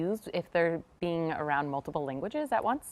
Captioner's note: none